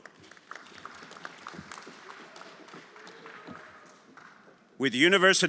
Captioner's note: everyone applauding